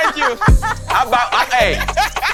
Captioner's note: all laughing